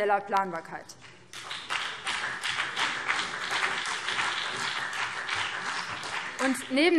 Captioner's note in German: Beifall BÜNDNIS 90/DIE GRÜNEN